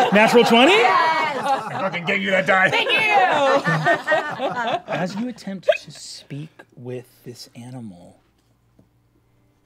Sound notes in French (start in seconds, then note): 3.7 rires